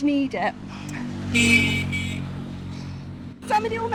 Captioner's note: loud horn honking